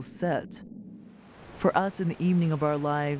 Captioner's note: waves rolling